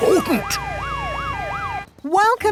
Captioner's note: sirens wailing